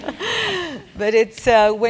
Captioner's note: laugh